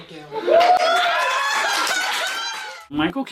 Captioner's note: cheering and laughter